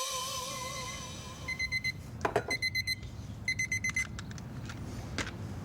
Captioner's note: timer beeping